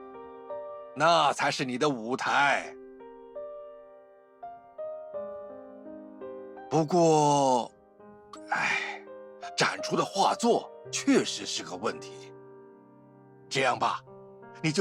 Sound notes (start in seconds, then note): 8.4 sighs